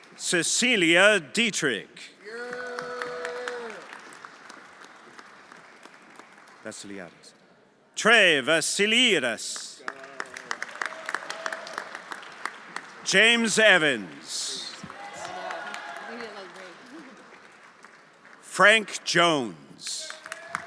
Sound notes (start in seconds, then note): 2.2 everyone applauding and cheering; 9.7 everyone applauding